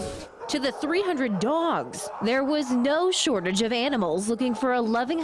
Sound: nats of barking

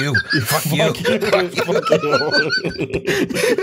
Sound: laughter

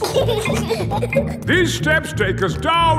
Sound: giggling

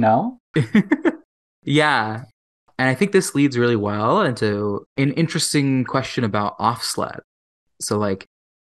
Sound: laughs

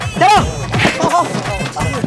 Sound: grunts

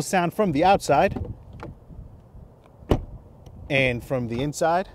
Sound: door clicking

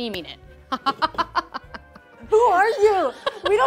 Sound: laughs

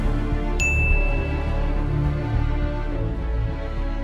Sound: dinging

